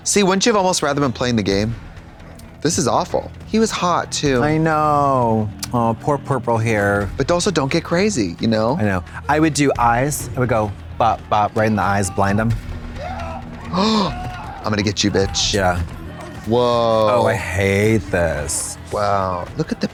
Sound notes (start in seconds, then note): 13.0 Trixie gasps